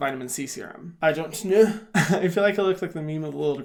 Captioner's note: laughs